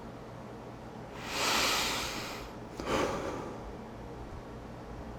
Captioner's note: exhales